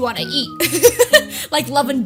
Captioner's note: giggles